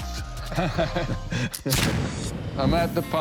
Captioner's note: laughter; gunshot